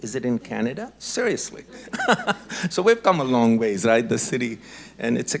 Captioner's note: laughs